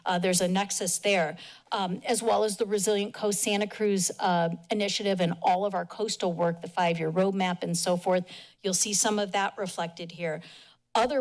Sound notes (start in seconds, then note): none